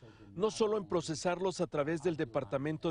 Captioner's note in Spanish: habla en ingés